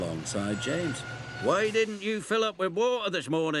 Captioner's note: train clanking